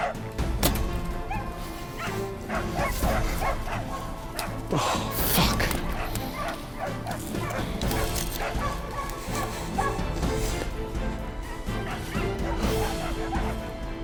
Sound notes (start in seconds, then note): 0.6 arrow flying; 2.2 dogs barking